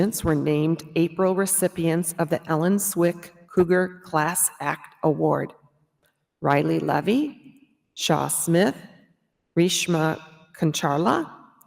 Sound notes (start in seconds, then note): none